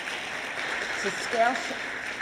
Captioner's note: applause